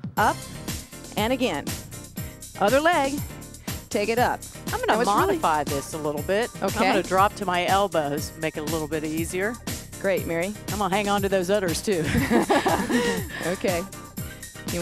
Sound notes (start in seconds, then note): 12.0 both laugh